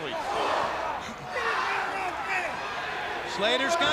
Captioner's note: crowd chatter